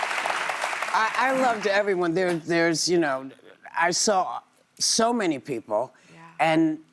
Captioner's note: applause